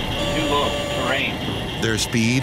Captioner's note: automated Voice; alarm sounding